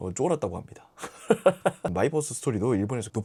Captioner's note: laughing out loud